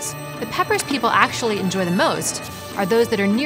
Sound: splashes

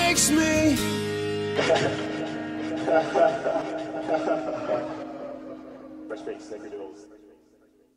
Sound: faint laughter

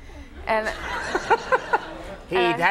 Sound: crowd and Conan laughing

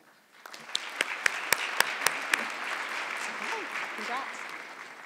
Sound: audience clapping

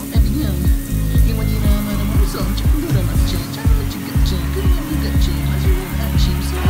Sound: crowd cheers

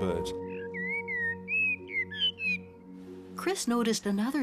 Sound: bird singing

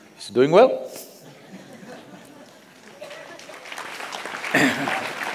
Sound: laughter/Applause

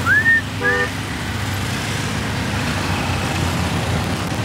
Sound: whistling

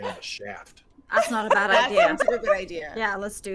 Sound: game Master laughs

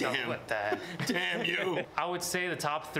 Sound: laughs

